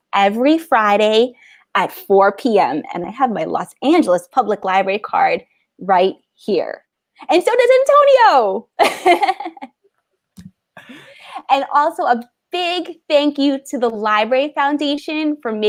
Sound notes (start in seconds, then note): 8.9 laughs